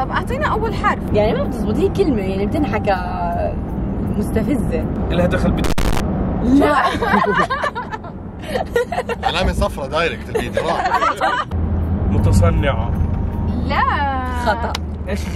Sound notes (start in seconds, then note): 6.5 laughing